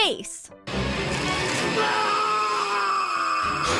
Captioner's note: Aunt Dahlia screams